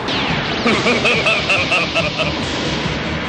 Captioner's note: diabolic laugh